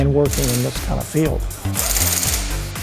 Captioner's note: impact wrench